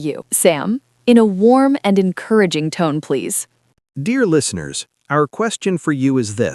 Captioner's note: warm, friendly tone